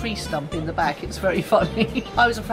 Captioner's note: laughs